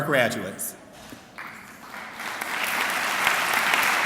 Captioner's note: clapping